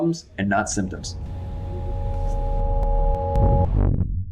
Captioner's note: lightning crashes